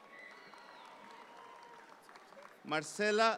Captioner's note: audience applause continues